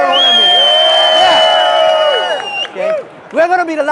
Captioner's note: cheering